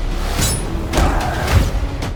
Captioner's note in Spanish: gruñido